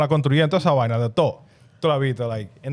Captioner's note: speaking In Foreign Language